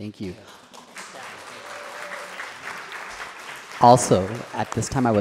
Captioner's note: applause